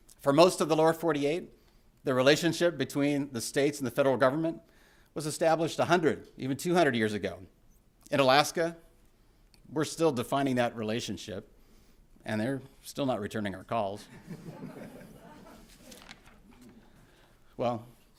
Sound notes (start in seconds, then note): 14.0 laughter